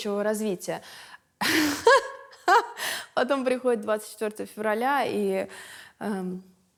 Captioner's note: laughs